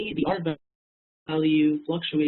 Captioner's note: murmurs